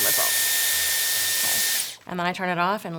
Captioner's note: dryer whirs